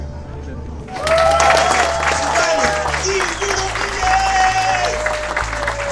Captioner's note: applause